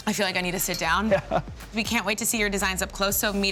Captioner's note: laughs